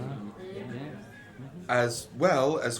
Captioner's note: murmurs of agreement